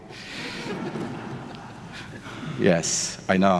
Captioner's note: audience laughing